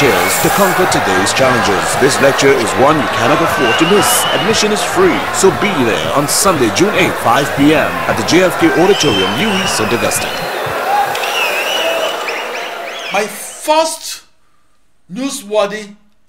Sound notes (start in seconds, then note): 9.7 wild applause and cheering for 22 seconds